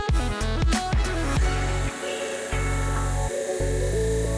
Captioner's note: saw blade whirs